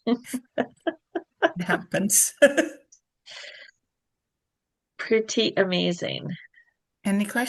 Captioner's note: laughter